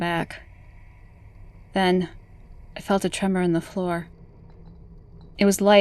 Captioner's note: light rumble fades in